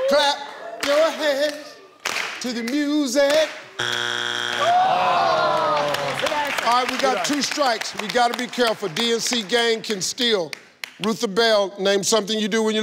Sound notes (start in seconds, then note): 2.0 claps; 3.8 buzzes; 5.5 claps